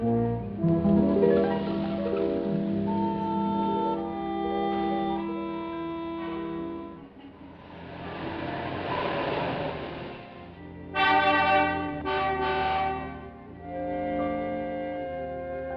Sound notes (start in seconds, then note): 10.2 horn honking